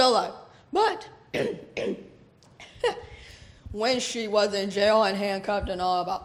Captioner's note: coughs